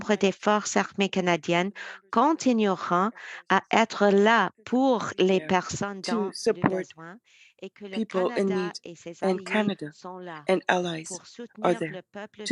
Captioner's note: speaking French